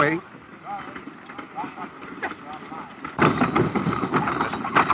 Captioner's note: wagons rumbling